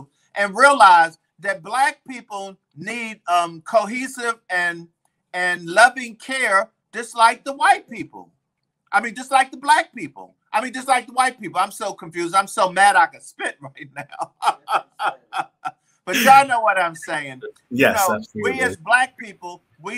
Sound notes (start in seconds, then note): 16.1 laughs